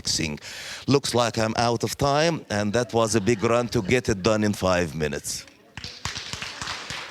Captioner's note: applause